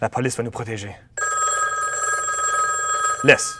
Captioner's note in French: Téléphone sonne